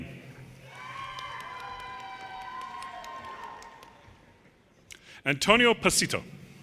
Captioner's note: audience cheers and applause